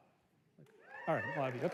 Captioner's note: cheers